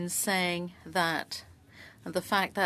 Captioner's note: speaking French